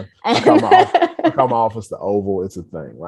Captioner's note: laughs